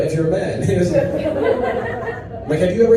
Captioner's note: audience laughs